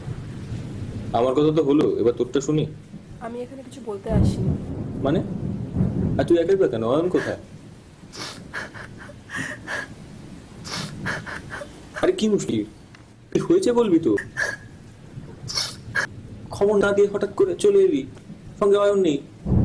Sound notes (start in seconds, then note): 5.1 woman weeps